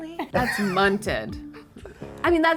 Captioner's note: laughing